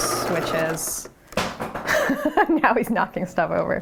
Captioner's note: object thuds; laughs